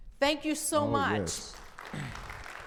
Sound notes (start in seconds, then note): 1.2 audience applauding